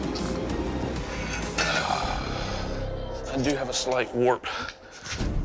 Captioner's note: sighs